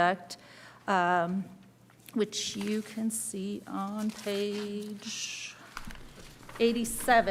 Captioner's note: pages rustling